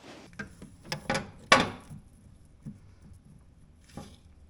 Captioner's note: parts clanking